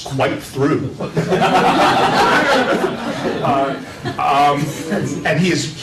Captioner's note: laughter